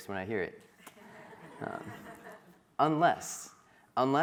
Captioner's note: crowd laughing